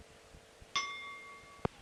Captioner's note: bell Sound